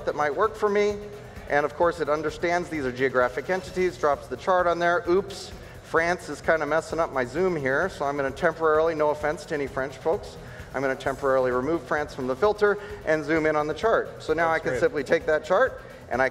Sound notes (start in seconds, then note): none